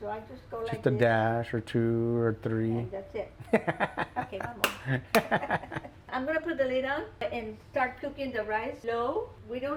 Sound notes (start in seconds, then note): 4.8 laughs; 5.6 laugh